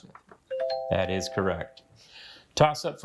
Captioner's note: bell dings